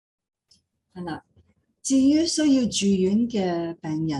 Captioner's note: non-english speech